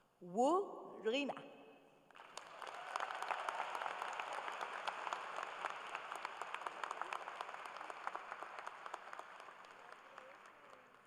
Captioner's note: applause